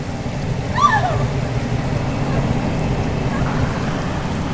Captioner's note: Kate screaming